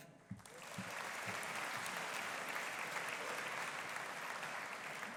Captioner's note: audience applauding